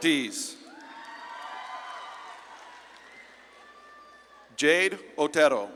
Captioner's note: audience claps and cheers